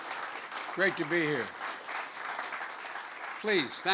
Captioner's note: applause